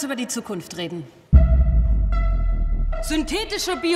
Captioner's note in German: monotones Piepen